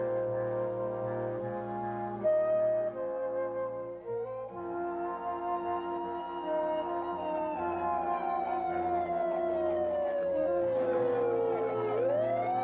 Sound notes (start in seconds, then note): 4.1 siren wailing